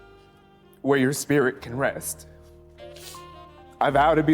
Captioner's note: sniffles